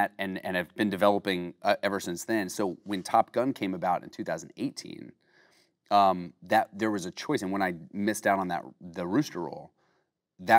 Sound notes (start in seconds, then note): none